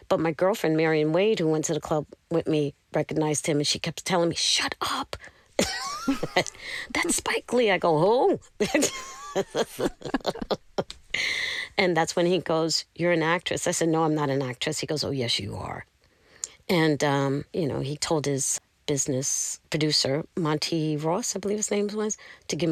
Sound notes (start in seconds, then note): 8.6 laughter